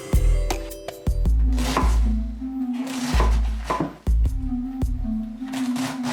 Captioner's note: knife cutting through cabbage